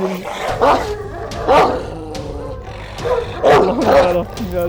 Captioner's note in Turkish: Havlama sesi ve Tansiyon müzik